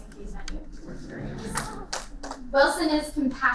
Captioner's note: laughter